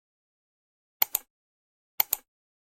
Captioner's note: clicking sound